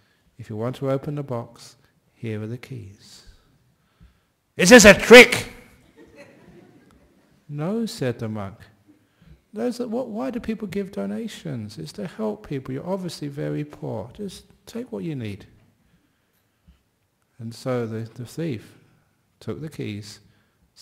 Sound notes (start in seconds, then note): 6.5 yelling; 8.7 quietly